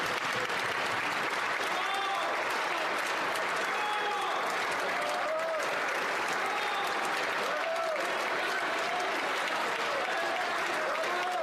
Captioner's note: some Applause